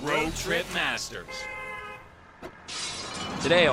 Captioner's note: car honks